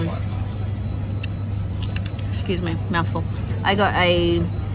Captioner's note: mouth noises